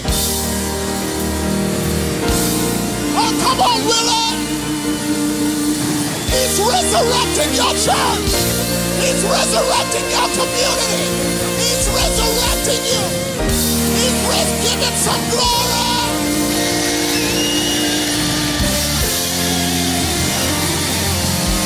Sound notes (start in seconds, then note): 0.5 audience applauds; 4.5 triumphant music; 5.9 audience applauds; 15.8 audience applauds; 15.8 audience cheering; 18.2 triumphant music